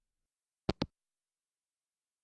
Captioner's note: hangup